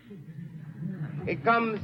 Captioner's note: crowd laughs